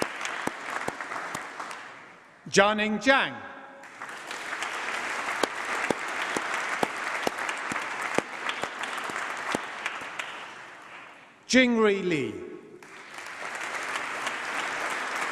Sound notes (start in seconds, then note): 3.8 applause; 12.8 applause